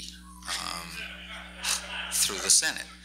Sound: laughs

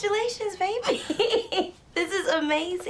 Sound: Jemma laughing

